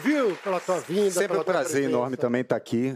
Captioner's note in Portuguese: aplausos